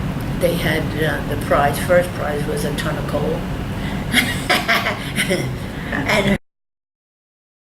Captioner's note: laughs